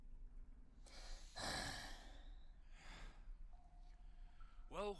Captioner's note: all sigh heavily